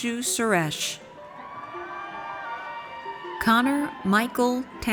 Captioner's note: audience cheers